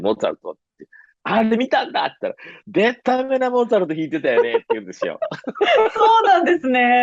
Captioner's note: laughs